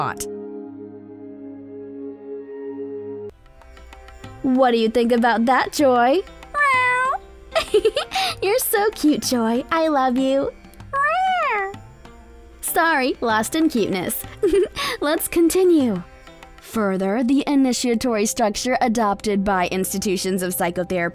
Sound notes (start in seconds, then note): 0.2 soft music; 3.3 soft bright music; 6.5 meow; 7.5 chuckles; 10.9 meow; 14.3 chuckles